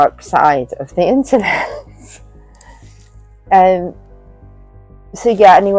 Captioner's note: laughs